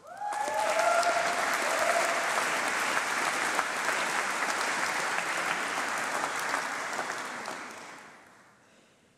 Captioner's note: applause